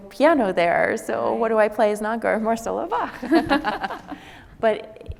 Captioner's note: laughs